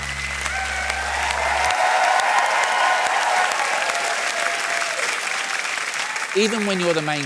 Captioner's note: cheering, applause